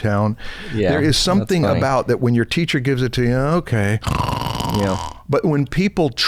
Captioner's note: snoring